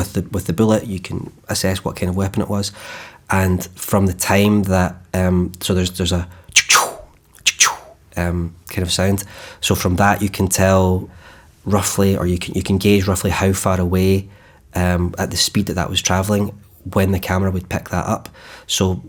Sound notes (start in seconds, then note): 6.5 immitating wooshing gun sounds